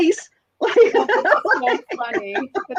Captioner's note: laughs